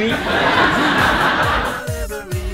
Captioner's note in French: rires